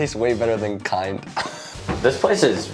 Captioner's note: laughs